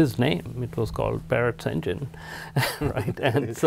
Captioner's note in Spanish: risas